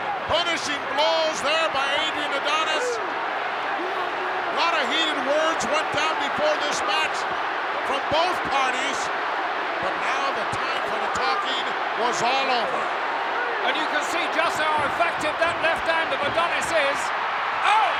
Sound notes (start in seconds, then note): 3.0 crowd booing